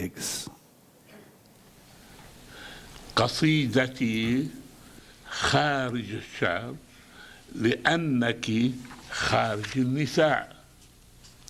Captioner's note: video, reads in Arabic